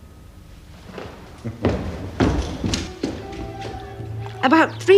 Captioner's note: Lovejoy chuckling; classical music